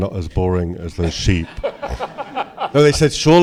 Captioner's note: laughter